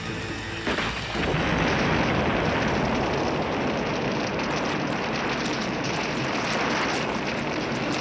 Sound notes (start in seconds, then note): 1.1 booming explosion